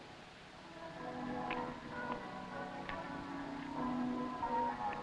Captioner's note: bells pealing